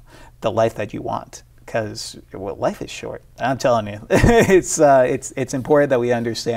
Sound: laughs

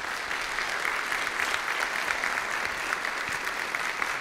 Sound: audience applauds

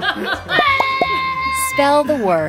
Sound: laughing; screaming

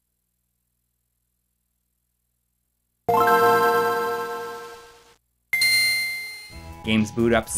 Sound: game audio

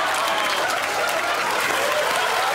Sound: laughter

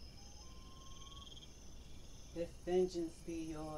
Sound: cricket sounds at night

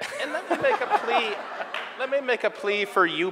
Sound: audience laughing

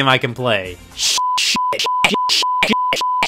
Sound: beep

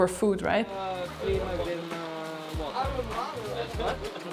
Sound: all chattering

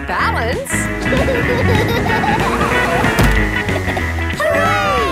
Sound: laughing

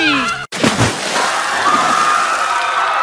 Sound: splash; crowd panic

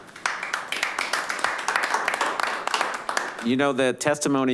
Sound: clapping

